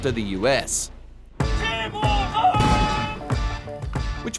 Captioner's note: shouts order